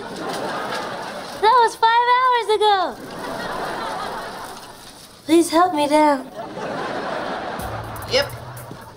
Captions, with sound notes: [laughing] That was five hours ago! [laughing] Please help me down. [laughing] Yup.